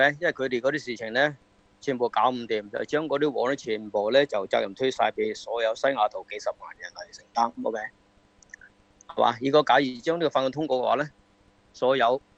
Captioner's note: speaki ng foreign language